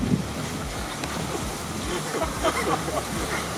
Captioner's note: laughter